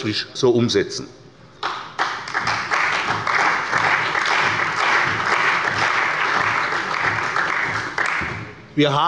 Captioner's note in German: Beifall bei der CDU und dem BÜNDNIS 90/DIE GRÜNEN